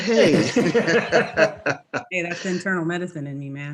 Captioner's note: laughing